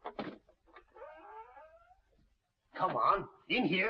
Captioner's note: door creaking